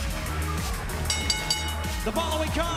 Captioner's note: bell ringing